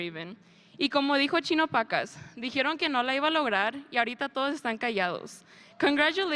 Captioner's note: speaker speaking in a foreign language